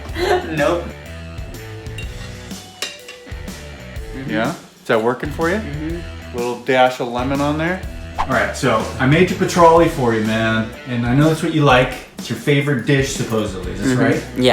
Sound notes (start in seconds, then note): 1.2 rock music; 8.2 whip cracking